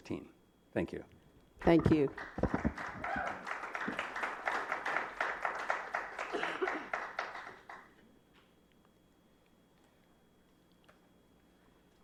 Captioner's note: applause